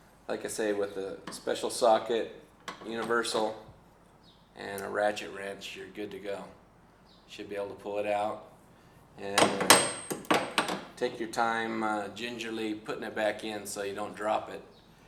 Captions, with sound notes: Like I say with the special socket universal and a ratchet wrench you're good to go should be able to pull it out [droping tools] take your time gingerly putting it back in so you don't drop it